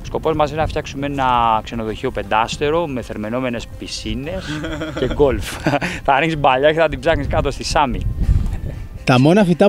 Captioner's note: joke, laughs